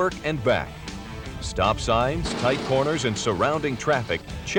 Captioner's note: engine revving